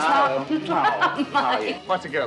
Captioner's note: laughing